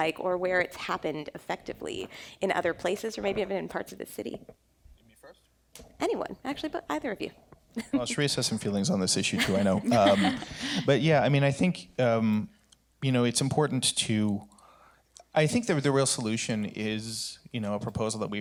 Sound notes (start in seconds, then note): 9.3 laughter